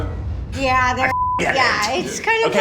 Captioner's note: beep